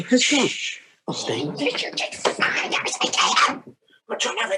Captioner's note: unintelligible tantrum noises